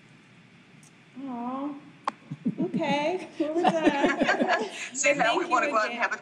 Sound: group laughing

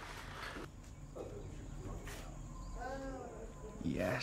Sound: distant chatter

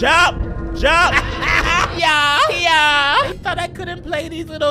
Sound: laughing

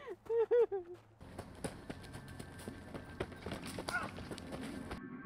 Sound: crying

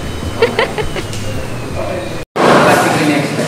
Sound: giggles

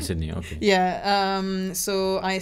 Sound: laughs

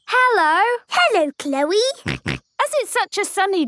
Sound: snorting

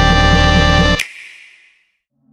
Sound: music stops, click sound effect; nighttime ambience

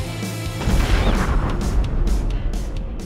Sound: poof

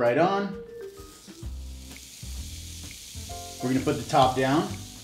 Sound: meat sizzling sound

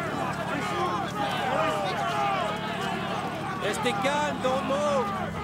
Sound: warriors shouting

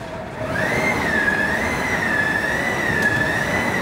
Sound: loud humming

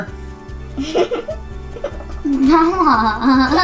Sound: giggles

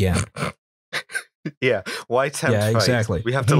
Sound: laughter

